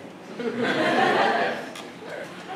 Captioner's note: laughter